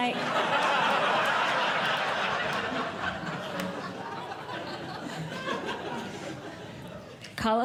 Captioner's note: audience Laughing